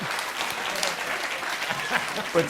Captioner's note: laughter; applause; laughs